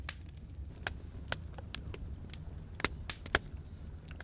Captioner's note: fire crackling